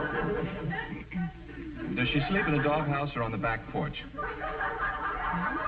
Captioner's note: chuckles